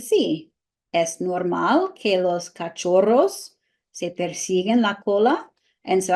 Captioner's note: speaking spanish